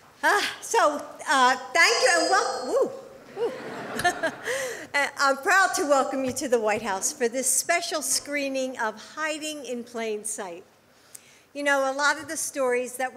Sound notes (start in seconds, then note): 2.7 feedback; 3.3 laughter